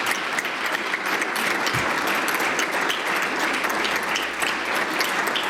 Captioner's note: applause